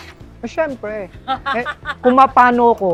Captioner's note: laughs